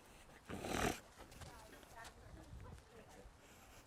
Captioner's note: sniffing